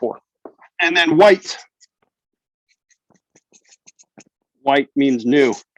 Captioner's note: marker scribbles